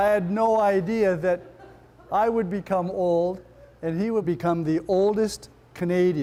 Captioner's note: laughter